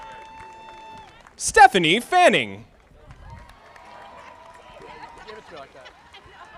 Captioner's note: audience applauding